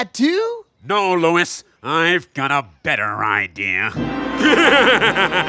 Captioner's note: crazed laughter